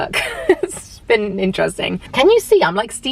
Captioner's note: chuckles